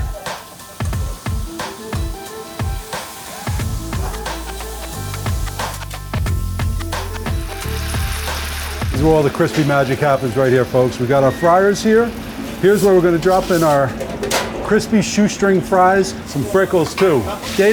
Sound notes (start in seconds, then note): 0.1 cheerful music; 0.1 meat sizzling; 7.6 oil sizzling